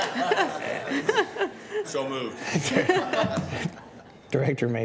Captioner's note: laughter